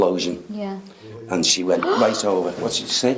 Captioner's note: man laughs